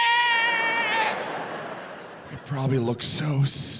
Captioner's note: audience laughing